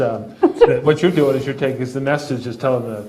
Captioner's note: laughs